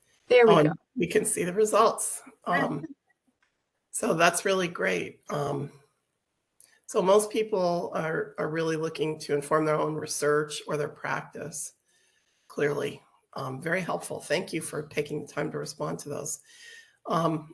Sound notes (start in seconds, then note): 2.5 laughing